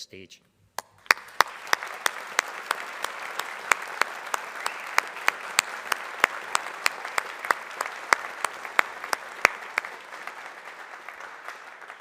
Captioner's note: applause